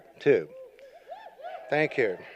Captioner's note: cheers